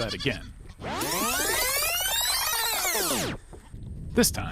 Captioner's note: videotape whirs